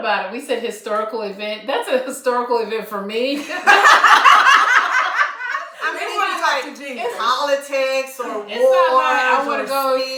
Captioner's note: laughter